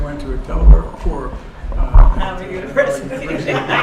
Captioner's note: laughs